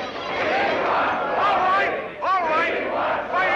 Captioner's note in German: lacht